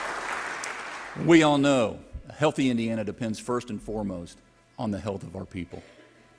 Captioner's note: applause